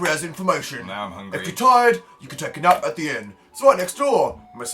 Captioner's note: male Cockney voice now